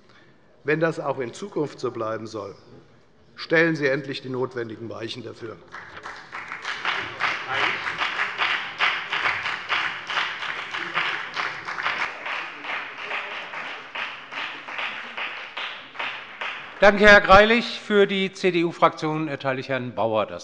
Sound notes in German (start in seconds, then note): 5.6 Beifall bei der FDP